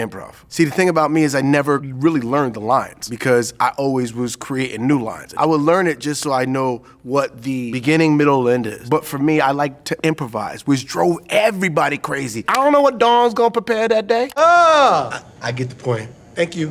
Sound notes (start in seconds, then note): 14.1 groans